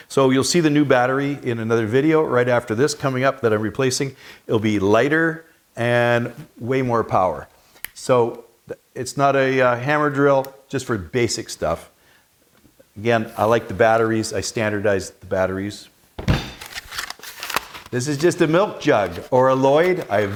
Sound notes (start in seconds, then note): 16.2 drill thumping; 16.2 plastic crinkling